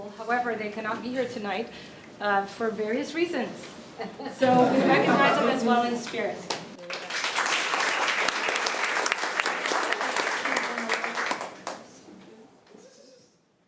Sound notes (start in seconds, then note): 4.0 laughter; 6.8 applause